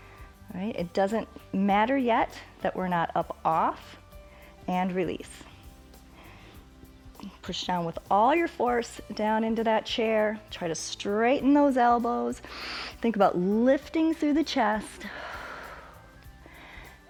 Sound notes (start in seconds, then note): 12.4 inhales; 15.0 exhales